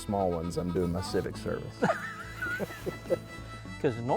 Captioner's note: laughs